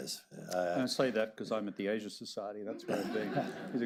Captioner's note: laughter